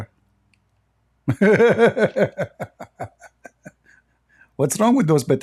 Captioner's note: Ketawa